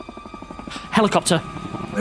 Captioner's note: helicopter whirring